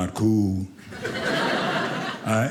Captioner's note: audience laughing